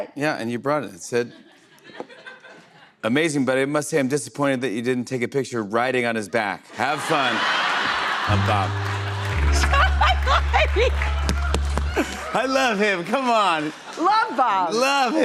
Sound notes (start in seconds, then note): 6.6 laughter; 8.3 sad tuba